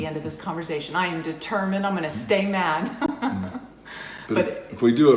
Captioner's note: laughs